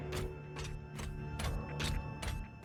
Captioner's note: click